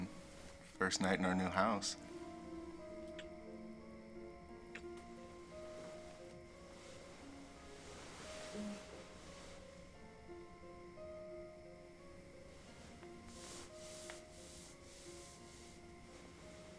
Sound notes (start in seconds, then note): 3.0 kisses smacking; 7.2 soft piano music